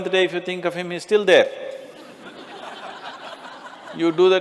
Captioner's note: Smích